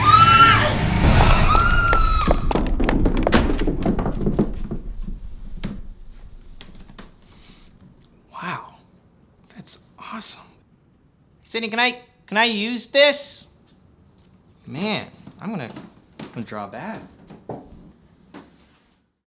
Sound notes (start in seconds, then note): 0.0 scream; 1.0 ball rolling; 1.6 scream; 8.6 sniffs